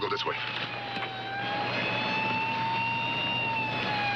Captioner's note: police sirens wailing